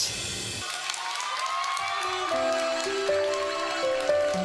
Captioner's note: audience cheering